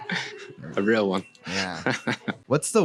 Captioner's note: laughs